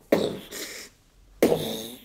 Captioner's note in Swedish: poff